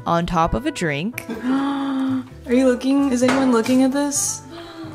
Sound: gasps

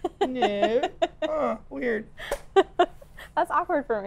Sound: laughs

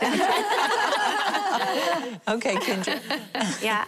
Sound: laughing

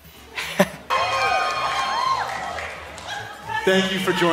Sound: presenter laughs; audience cheering

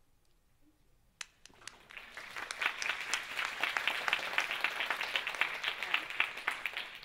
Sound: audience applauding

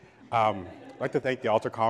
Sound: audience laughs

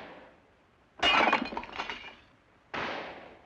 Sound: pot breaking; gunshot

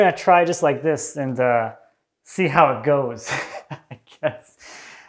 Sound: laughs

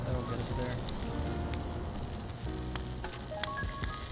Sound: meat sizzling

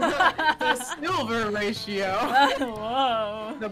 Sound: laughing; sarcastically guessing randomly

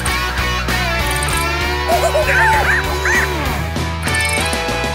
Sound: chittering

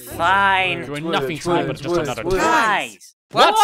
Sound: twilight and spike argue

